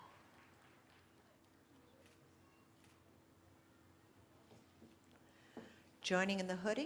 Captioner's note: cheering